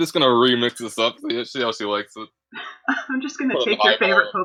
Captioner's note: laughter